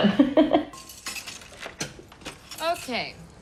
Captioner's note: laughs